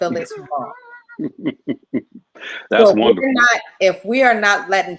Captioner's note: laughing